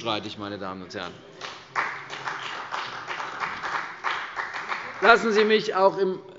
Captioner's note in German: Beifall bei der CDU und dem BÜNDNIS 90/DIE GRÜNEN